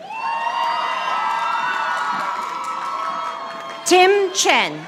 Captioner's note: audience applauding